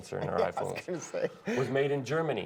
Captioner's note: laughter